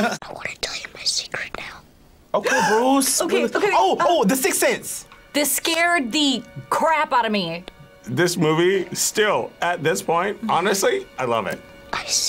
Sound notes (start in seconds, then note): 0.0 laughs; 3.2 gasps